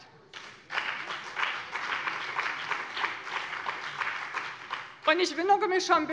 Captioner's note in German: Beifall bei dem BÜNDNIS 90/DIE GRÜNEN und der CDU